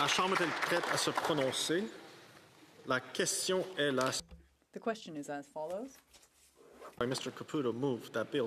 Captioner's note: some Applause